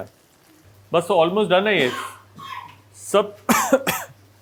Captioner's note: coughing